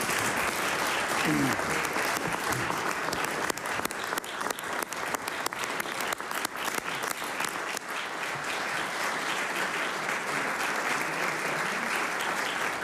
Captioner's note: applause